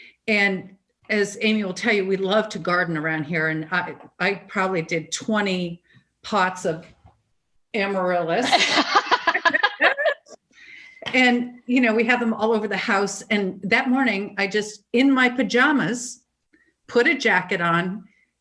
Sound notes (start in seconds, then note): 8.5 all laugh